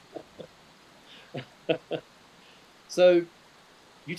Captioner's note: laughing